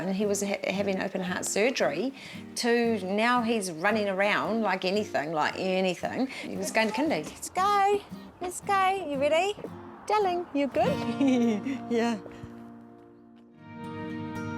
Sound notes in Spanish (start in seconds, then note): 11.0 Risas